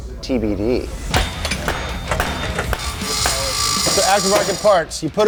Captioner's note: hammer banging